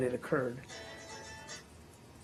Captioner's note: ringtone plays